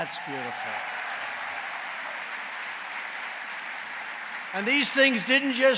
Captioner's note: applause